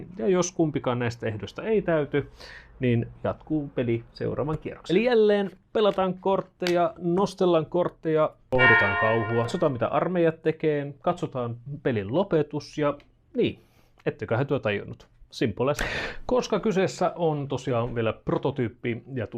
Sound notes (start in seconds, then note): 8.5 church bell rings